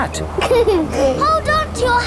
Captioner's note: giggles